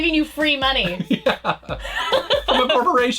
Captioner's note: laughs